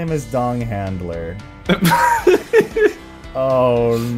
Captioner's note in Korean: 웃음